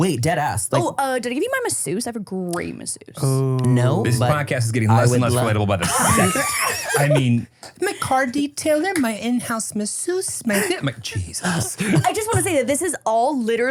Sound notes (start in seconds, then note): 6.9 laugh